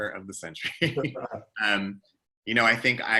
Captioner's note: laughs